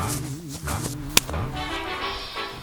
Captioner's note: bam